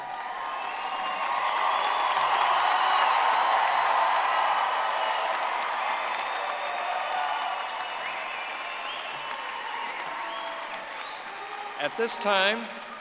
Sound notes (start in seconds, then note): 2.8 audience applauding